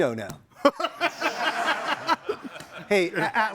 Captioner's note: all laughing